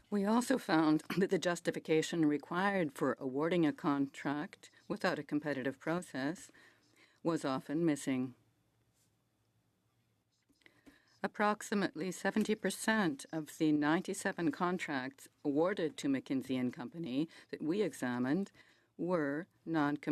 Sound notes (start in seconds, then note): 2.9 speaking French